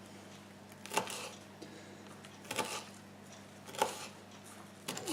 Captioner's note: chopping sounds